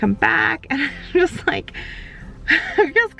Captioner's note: laughs